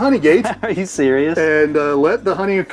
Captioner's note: laughs